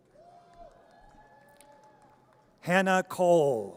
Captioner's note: audience cheers